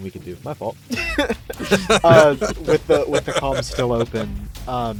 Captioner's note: laughs